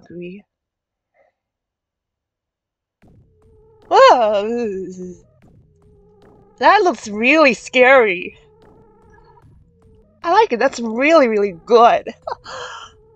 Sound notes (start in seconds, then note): 4.4 disgust sound; 11.5 laugh